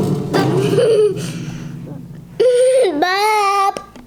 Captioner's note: laughing